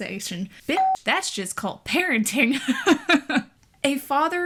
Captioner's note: laughs